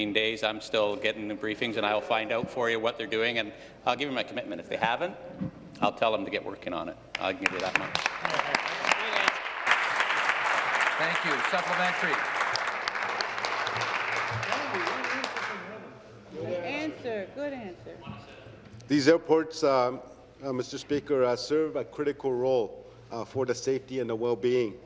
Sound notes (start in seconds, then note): 14.2 applause